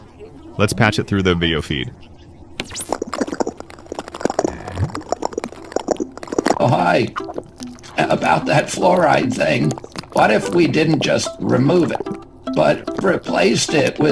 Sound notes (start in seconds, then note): 2.7 viscous gurgling sounds; 4.8 viscous blurp